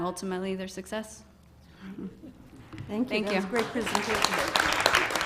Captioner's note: applause